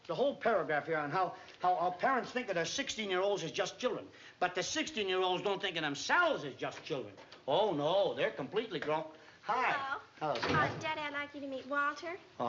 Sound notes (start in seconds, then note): none